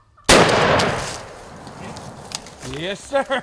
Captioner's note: gunshot